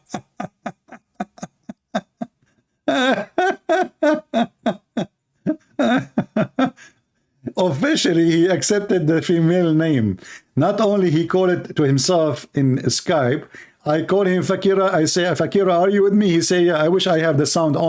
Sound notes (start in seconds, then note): 3.0 Ketawa